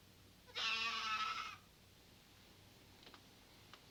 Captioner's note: goat bleating